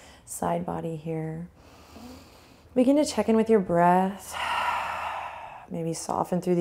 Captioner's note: inhale; exhale